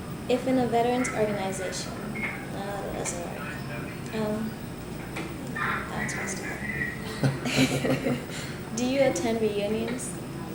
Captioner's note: both laugh